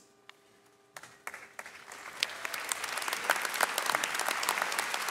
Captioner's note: audience clapping